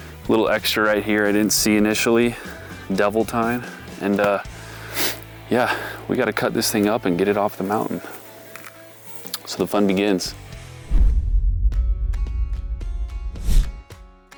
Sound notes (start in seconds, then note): 10.9 logo thuds; 12.5 relaxed music